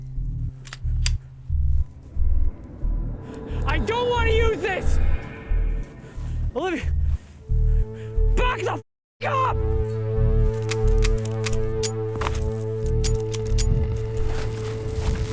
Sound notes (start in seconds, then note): 13.0 gun clicks